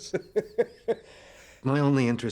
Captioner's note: man laughing